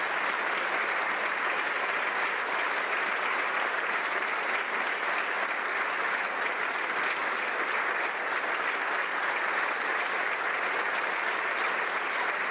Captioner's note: applause